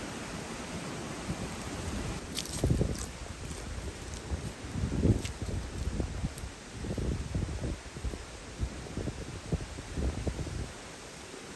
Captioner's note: woodland sounds